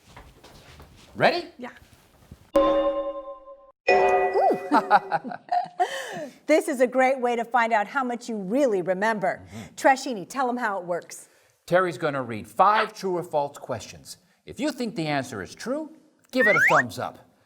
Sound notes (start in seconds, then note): 3.9 chime!; 4.4 laughter